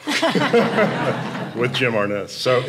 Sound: audience laughing

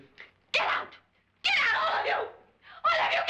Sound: screaming

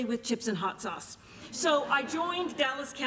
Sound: laughter

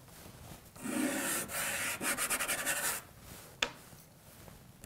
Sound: scratching

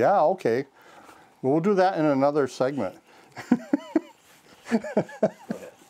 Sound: laughing

